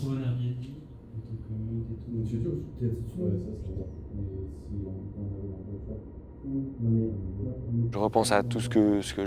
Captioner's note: distant chattering